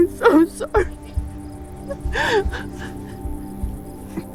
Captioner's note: crying